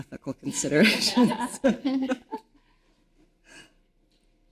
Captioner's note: all laughing